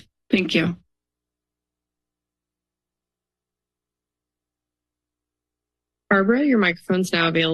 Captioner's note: silence